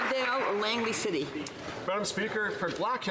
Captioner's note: some Applause